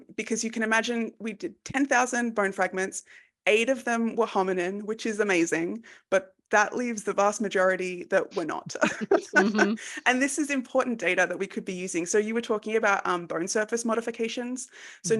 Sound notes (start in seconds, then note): 8.6 laughs